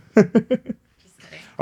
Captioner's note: laughing